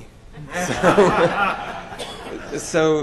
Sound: laughter

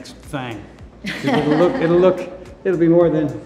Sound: Cynthia laughs

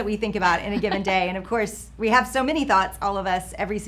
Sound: laughing

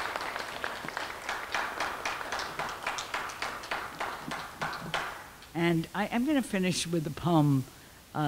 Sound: clapping

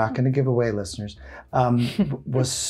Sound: chuckling

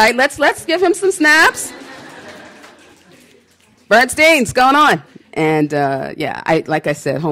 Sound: snaps

